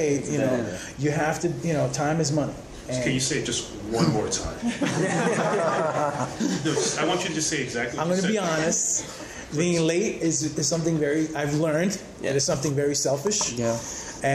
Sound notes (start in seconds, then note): 4.6 laughter